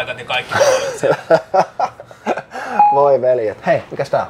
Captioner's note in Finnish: Nauraa